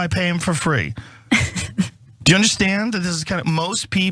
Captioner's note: laugh